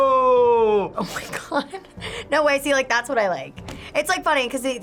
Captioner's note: laughs; chuckles